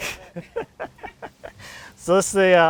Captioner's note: laughing